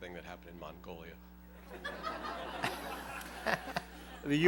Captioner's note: laughter